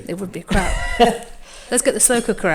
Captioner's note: laughs